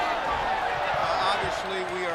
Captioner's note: people chattering continues